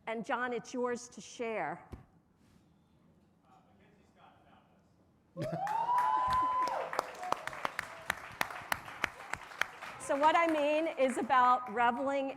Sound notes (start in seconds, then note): 5.4 audience cheering; 7.0 audience applauding